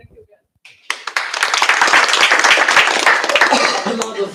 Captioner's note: applause